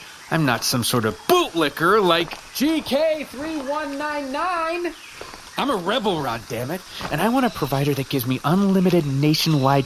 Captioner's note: throwing voice